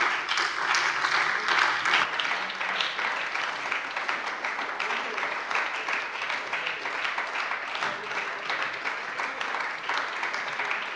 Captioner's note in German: Anhaltender Beifall bei der SPD